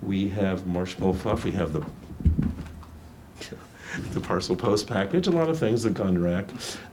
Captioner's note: laughs